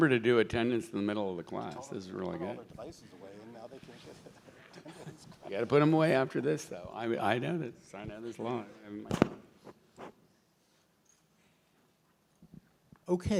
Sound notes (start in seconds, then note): 3.7 laughs